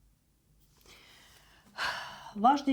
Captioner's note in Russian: вздыхает